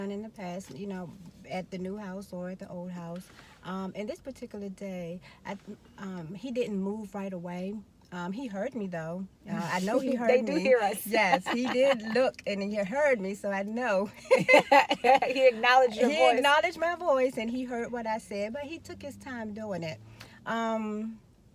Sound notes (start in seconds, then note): 11.0 laughing